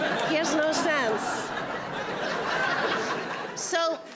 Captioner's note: audience laughing